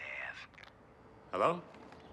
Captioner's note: call disconnects